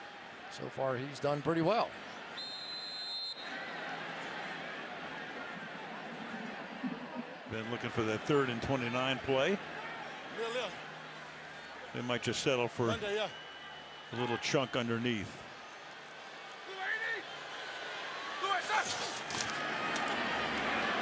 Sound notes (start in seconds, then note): 2.3 whistle; 10.9 onfield chatter; 13.6 onfield chatter